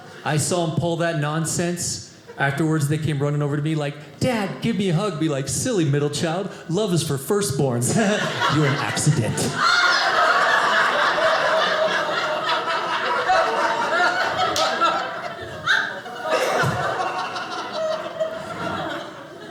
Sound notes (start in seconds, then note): 10.2 audience laughing